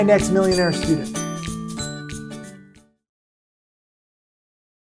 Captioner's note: light chiming bells